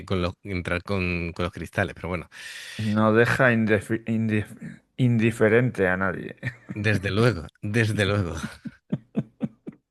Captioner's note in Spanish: risas